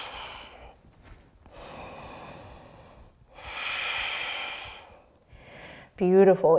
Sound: breathing

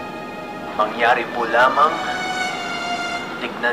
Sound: Alex over phone

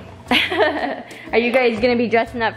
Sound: laughs

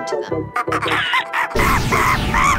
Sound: monkey screams; lighthearted music

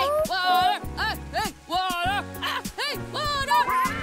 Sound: chanting

